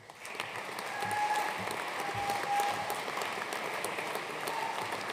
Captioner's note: audience applauding; attendee cheering